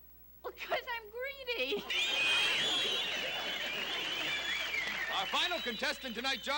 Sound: laughter, applause

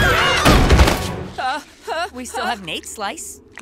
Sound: screaming; groaning

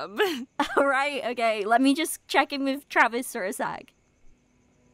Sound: laughing

